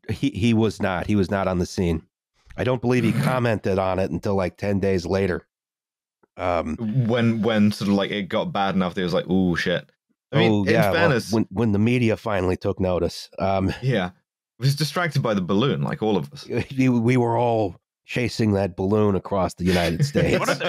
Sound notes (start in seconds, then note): 3.0 snorts; 19.6 laughter